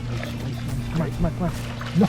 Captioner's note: fish flapping